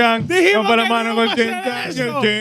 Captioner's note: speaking In Foreign Language